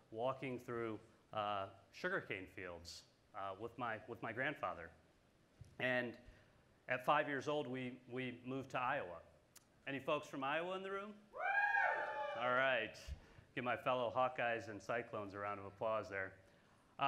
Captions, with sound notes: walking through sugar cane fields with my grandfather. And at five years old we moved to Iowa. Any folks from Iowa in the room? (group cheers) All right, give my fellow Hawkeyes and Cyclones a round of applause there.